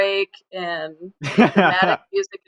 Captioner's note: laughs